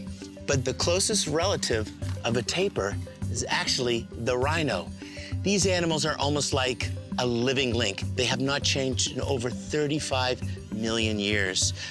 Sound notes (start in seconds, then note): none